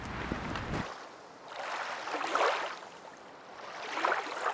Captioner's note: water rushing